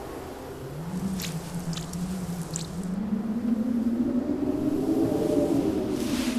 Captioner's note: blowing Winds